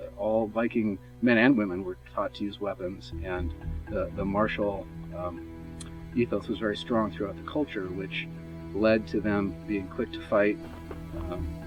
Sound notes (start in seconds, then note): none